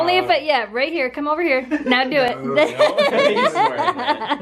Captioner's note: laughter